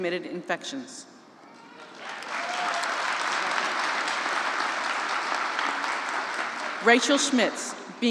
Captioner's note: applause